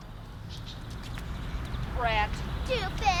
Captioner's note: birds chirping